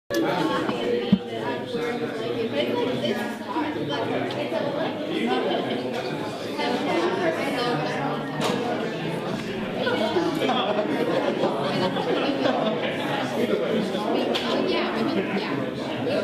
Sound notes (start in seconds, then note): 0.2 crowd chatter